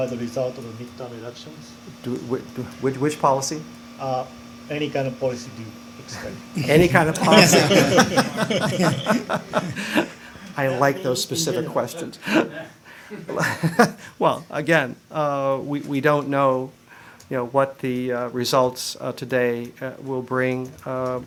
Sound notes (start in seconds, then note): 9.4 laughter